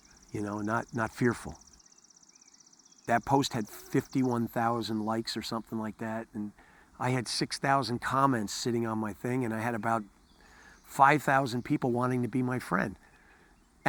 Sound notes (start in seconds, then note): none